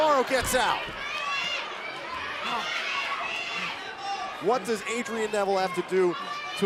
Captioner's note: crowd chatter